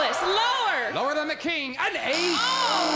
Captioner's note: buzzer